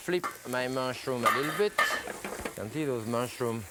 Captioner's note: skillet cover clatters